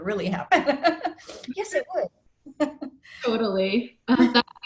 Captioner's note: laughs; laughs